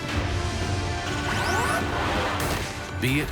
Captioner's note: robotic whirring